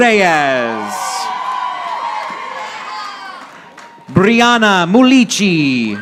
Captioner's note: audience applauding